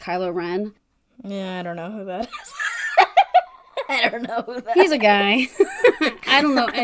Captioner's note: laughs